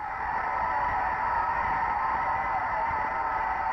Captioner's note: crowd cheering